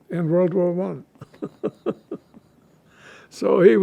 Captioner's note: laughing